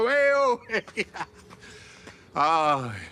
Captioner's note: he chuckles; he sighs